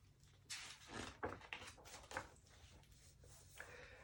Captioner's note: page turning